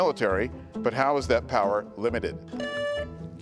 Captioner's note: buzzer beeps